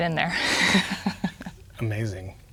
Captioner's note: laughing